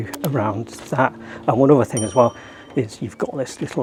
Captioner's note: graphic clicks; bell dings